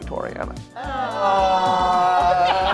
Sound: groaning; everyone laughing

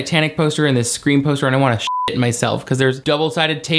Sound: beep

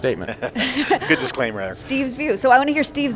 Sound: laughing

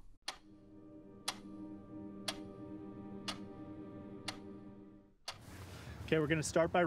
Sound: clock ticking

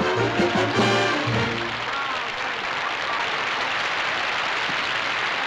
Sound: applause

